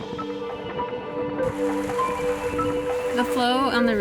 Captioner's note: water rushing